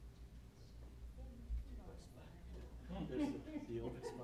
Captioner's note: chatter